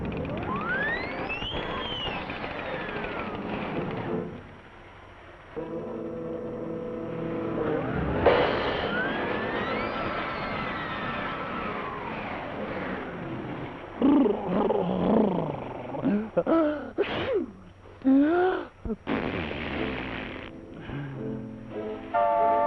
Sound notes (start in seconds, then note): 0.1 wind whistling; 13.6 shivering; 16.4 sneezing; 19.0 nose blowing